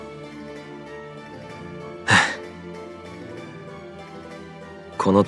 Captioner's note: sigh